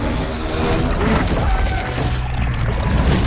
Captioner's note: Shin Chomps at Godzilla